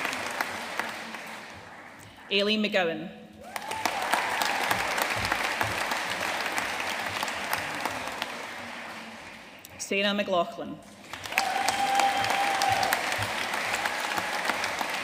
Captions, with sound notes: Ailie McGowan. (AUDIENCE APPLAUDING) Sarah McLaughlin. (AUDIENCE CHEERING AND APPLAUDING)